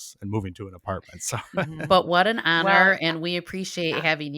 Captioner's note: chuckling